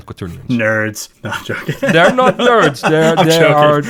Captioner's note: laughs